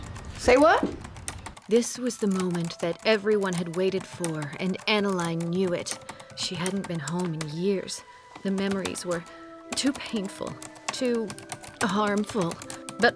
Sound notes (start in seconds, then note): 1.8 typing